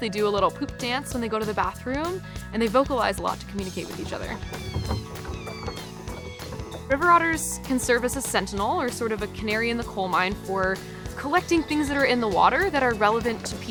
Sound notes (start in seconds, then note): 3.6 river otter squeaking